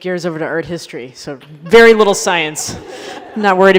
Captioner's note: laughter